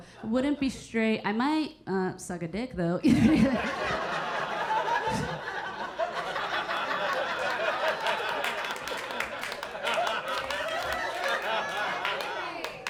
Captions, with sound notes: Wouldn't be straight. I might suck a dick though. (audience laughing) (audience clapping)